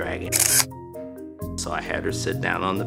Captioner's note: camera shutter clicks